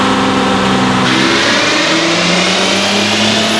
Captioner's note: accelerating